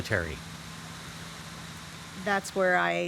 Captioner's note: fire crackling